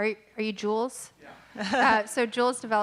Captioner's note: laughing